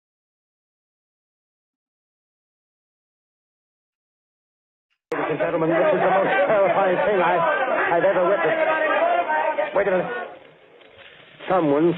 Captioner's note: crowd shouting